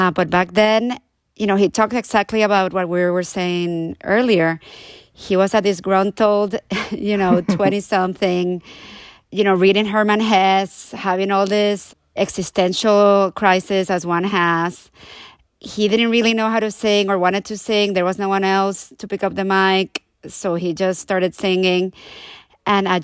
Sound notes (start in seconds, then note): 6.7 laughter